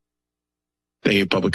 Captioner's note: pause